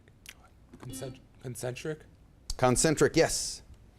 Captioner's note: beep